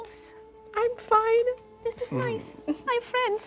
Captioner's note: crying